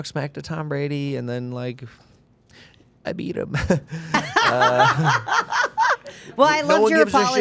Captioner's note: laughing